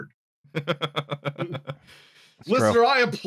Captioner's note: chuckles